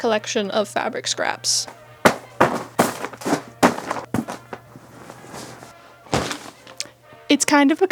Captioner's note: thump, thwap, thwomp, flomp